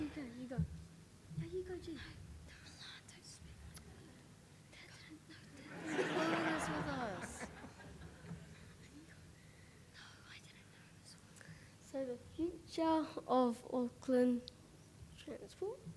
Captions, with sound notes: - You go. No, you go do. - They're a lot (whispers) (audience chuckles) with us. (whispers) - No, I didn't know (whispers) - So the future of Auckland transport...